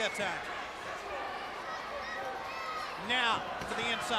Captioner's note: crowd chatter